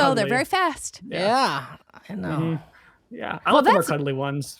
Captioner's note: none